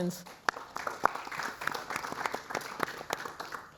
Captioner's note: applause